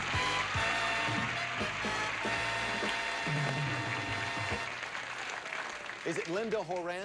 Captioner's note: audience applauding